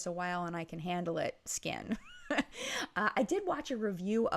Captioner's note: laughter